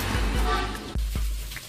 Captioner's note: h0nk